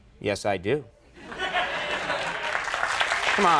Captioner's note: audience laughing; audience clapping